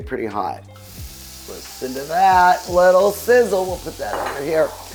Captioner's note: meat sizzling